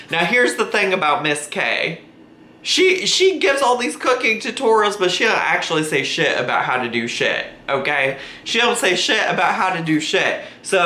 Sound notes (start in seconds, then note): none